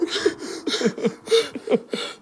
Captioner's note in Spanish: lloran